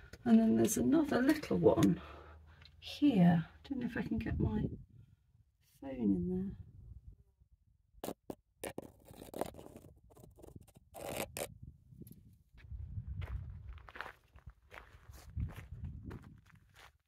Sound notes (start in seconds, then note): none